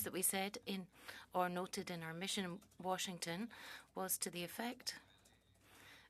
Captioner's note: speaking French